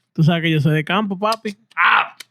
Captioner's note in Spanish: Hablando en idioma extranjero